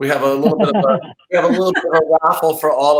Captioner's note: laughing